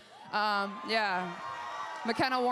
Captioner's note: crowd cheers